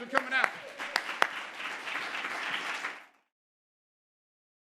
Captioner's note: audience applauding